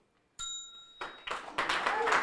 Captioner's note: bell dinging; audience applauding